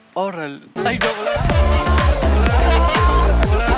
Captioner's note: laughter